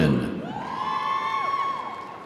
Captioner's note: audience cheering; audience applauding